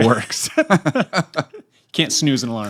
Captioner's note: laughter